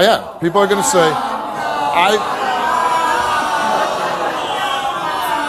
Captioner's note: audience booing